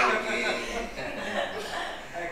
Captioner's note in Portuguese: risos